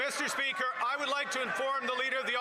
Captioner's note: applause